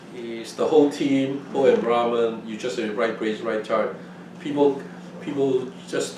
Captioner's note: laughs